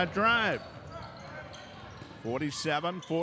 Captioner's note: shoes squeaking; yelling